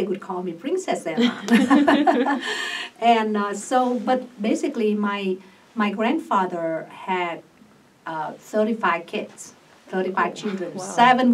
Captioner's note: all laugh